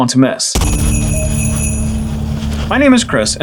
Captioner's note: sleigh bells